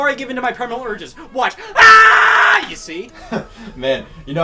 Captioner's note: yells